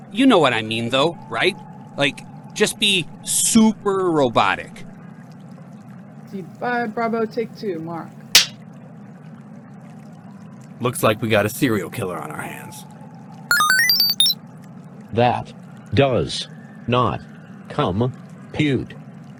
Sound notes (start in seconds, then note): 8.4 clapper sound; 13.5 electronic beeping